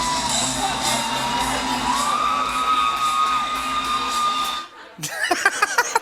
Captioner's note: cheers and applause; laughter